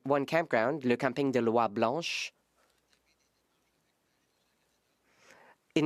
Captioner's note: speaking French